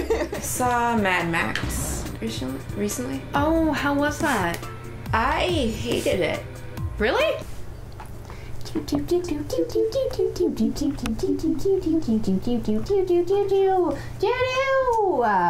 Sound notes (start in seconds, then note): 0.0 laughter; 10.2 humming theme music